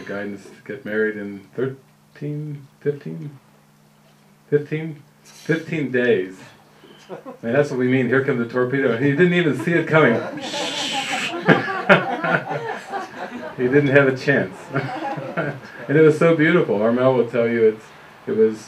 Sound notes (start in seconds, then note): 11.2 laughter